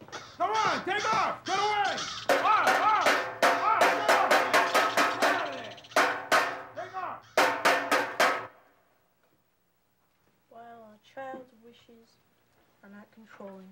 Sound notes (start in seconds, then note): 2.2 pot banging